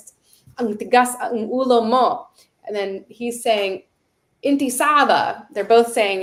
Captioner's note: Arabic language